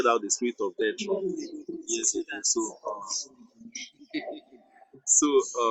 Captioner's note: laughs